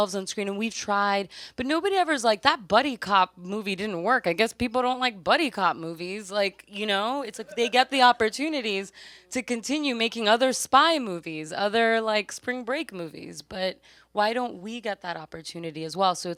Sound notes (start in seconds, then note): 7.3 audience laughs